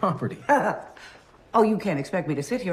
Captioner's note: laughs